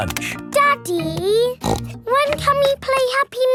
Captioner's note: snorts